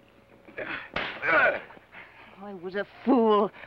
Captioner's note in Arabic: صفعة; ثيودور يئن